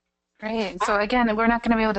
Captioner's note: voiceover